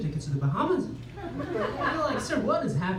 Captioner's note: laughter